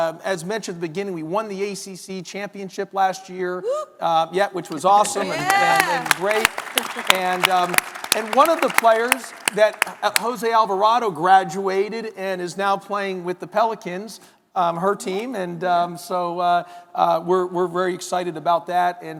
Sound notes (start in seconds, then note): 4.9 audience cheering